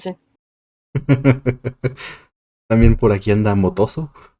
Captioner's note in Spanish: risas